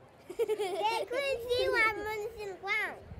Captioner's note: laughter